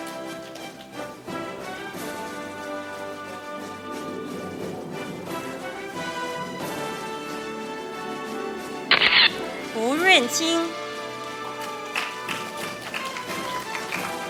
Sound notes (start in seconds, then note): 0.3 orchestral music; 9.0 camera shatters; 10.6 audience applauding